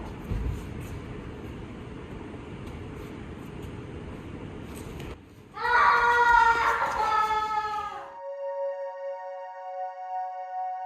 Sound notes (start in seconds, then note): 5.6 Lysander wails; 8.1 calm ambient music